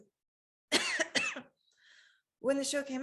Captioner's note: coughing